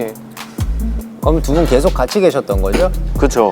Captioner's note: tears